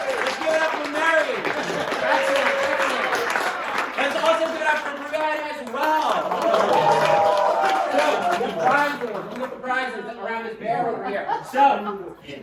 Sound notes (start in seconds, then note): 6.2 applause